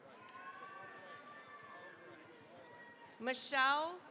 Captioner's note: cheering, applause